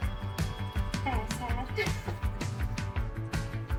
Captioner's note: laugh